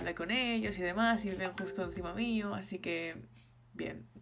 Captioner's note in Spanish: notificación de fondo